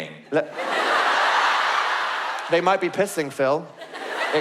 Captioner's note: audience laugh